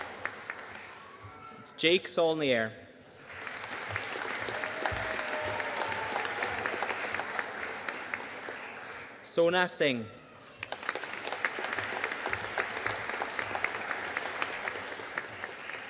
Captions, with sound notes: Jake Saulnier. (AUDIENCE CHEERING AND APPLAUDING) Sona Singh. (AUDIENCE APPLAUDING)